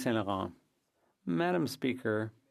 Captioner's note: speaking French